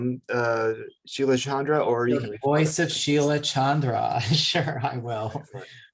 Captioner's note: chuckles